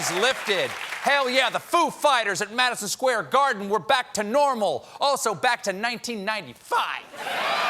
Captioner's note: cheers and applause